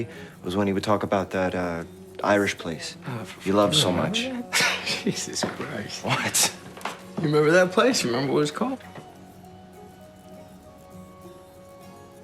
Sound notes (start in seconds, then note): 3.5 laughs; 9.0 soft music